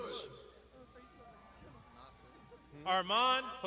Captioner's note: crowd shouting